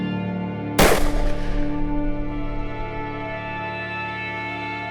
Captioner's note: gunshot